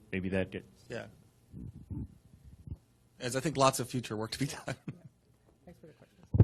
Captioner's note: laughter